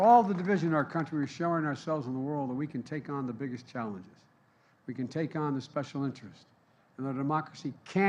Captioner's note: applause